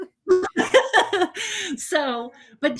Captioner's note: laughing